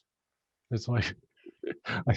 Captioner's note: chuckles